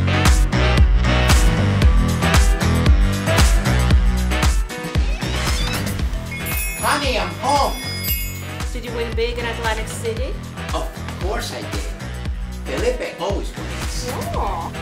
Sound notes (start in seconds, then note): 4.9 door creaks; 6.1 jewelry twinkles